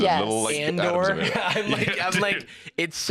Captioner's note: laughs